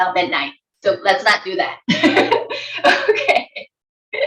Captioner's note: giggles